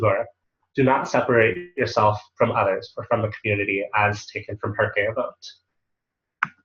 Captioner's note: Hebrew